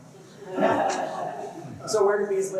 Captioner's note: laughter